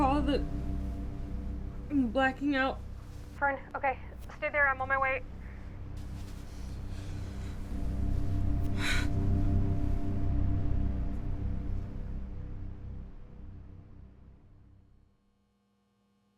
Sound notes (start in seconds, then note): 8.7 Fern sighs; 12.3 slow ominous music continues